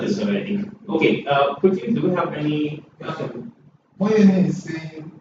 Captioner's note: laugh